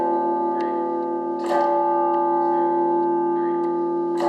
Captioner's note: bell rings